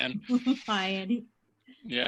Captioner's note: laughs